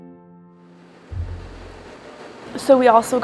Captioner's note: city sounds